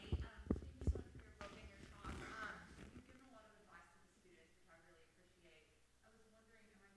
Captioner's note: audience member speaking quietly